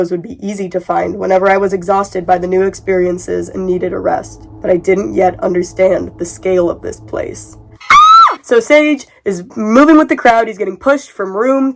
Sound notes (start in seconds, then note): 7.8 screams again